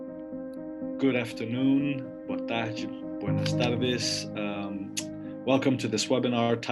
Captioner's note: speaks in Spanish